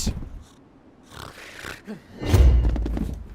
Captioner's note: snores, snorts